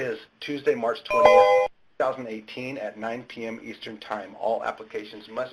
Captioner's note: ding